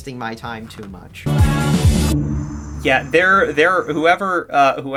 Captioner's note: abrupt, but intentional audio dip